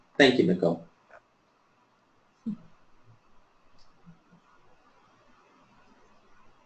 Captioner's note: silence